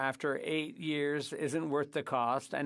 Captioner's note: speaking French